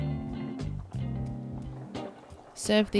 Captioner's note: sauce simmers